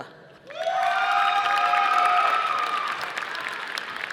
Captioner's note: audience applauding